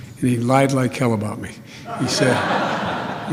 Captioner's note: laughter